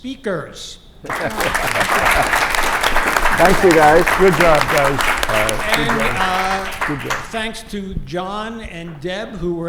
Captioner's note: applause